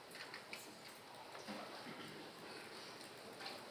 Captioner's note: none